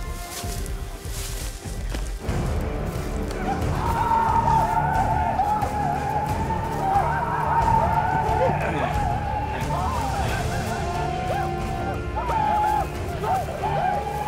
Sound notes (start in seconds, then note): 0.0 tense music; 3.2 whooping